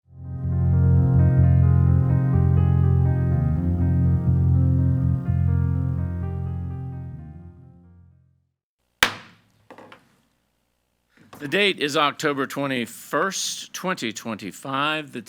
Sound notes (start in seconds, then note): 0.1 gentle music; 9.0 gavel thuds